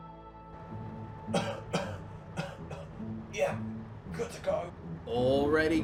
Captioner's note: coughing